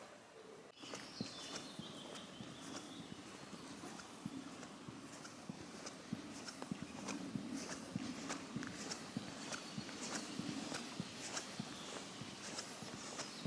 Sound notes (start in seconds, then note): 1.3 birds chirping; 1.3 foot thumping